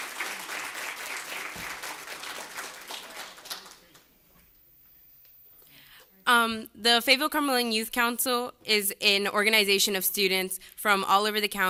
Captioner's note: applause